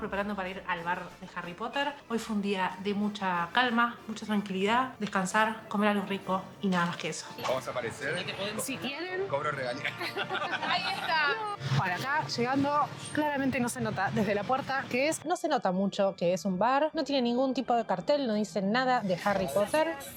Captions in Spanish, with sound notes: para ir al bar de Harry Potter. Hoy fue un día de mucha calma, mucha tranquilidad, descansar, comer algo rico, y nada más que eso! vamos a aparecer? si quieren....cobro regalías! [risas] bueno, acá llegando, claramente no se nota desde la puerta qué es... no se nota mucho que es un bar, no tiene ningún tipo de cartel, no dice nada de Harry Potter